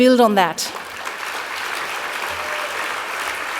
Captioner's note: applause